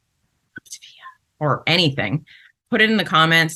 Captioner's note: whispers